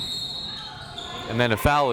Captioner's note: whistle tweeting